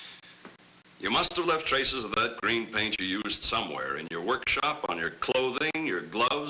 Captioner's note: sigh